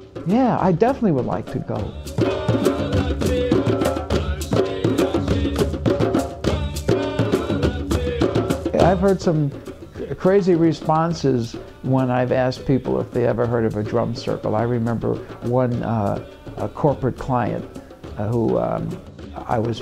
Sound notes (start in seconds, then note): 2.2 chanting in foreign language; 2.2 rhythmic drumming